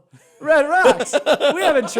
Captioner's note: laughter